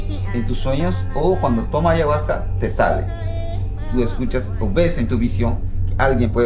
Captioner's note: shaman speaks in foreign language